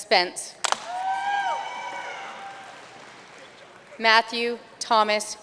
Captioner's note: audience cheering and applauding